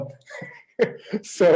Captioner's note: chuckles